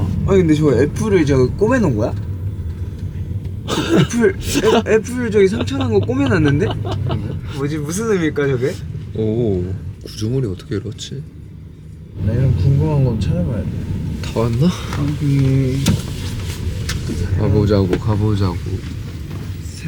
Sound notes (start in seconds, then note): 3.7 laughing